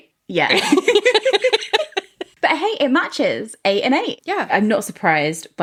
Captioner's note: laughing